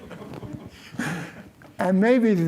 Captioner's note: laughter